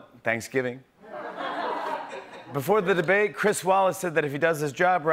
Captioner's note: laughter